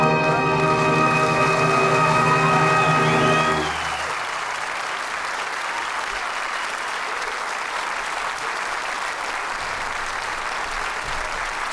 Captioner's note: applause